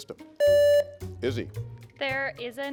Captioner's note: contestant beeping